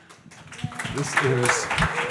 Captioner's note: audience applauds